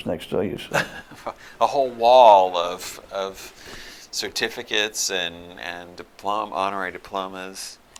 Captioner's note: laughter